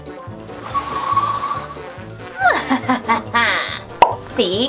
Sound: goofy music; tires screeching; evil laughing

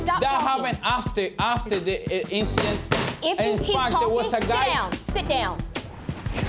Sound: gavel banging

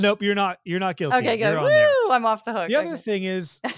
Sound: laugh

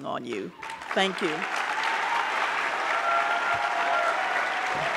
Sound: audience clapping

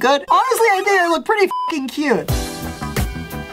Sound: beep; funky upbeat music

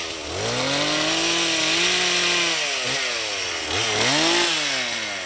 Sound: chainsaw noise

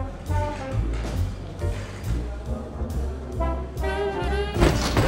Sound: distant chatting

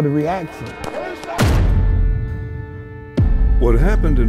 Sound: loud bang

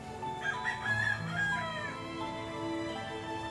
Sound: chicken cackling

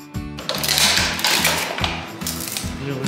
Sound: crunching

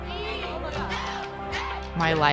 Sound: group chanting

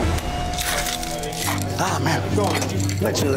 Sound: ice crunching

